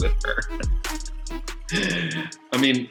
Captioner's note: laughs